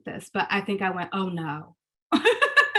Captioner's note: laughs